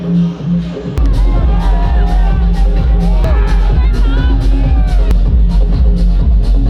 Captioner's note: low dance music; crowd cheering